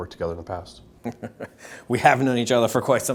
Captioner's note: laughing